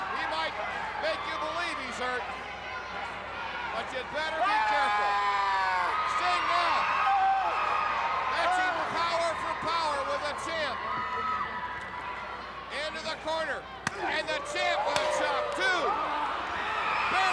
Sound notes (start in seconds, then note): 5.4 Ric yelling; 13.8 chop striking